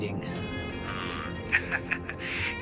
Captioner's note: chuckles